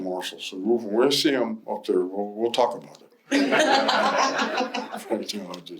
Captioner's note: laughter